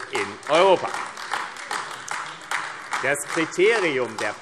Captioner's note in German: Beifall AfD